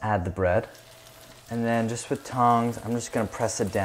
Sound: sizzling

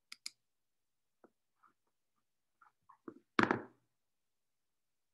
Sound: computer mouse clicking

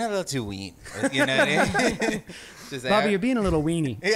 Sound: band members laughing

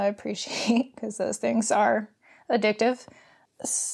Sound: laughs

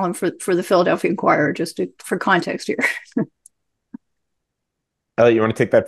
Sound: laughs

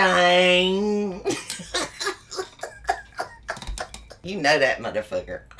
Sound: giggles

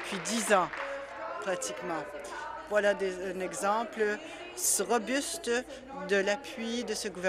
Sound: applause

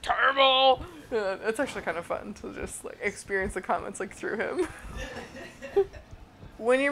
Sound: both laugh

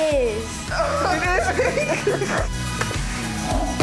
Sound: laughs; upbeat music

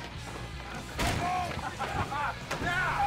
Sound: laughing

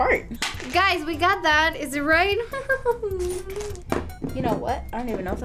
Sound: laughs

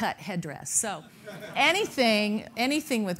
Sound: laughing

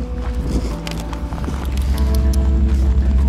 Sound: tongue clicks

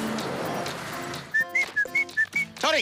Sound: whistles

